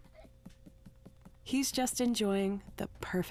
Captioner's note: giggling